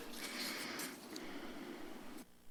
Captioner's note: rustles